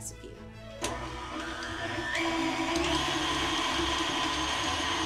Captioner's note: blender whirling